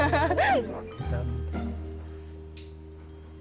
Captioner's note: chuckles